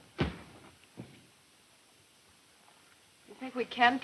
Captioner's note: heavy loud footsteps